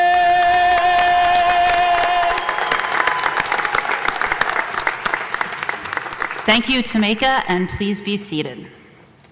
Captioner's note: applause